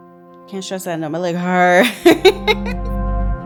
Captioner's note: laughs; gentle music